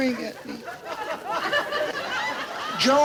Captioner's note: audience laughs